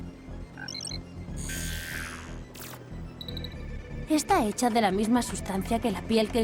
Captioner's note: buzz